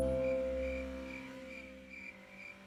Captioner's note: crickets